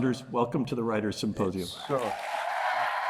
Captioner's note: applause